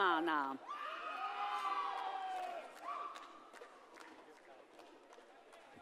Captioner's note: audience cheers and applauds